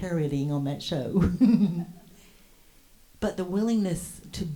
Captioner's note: chuckles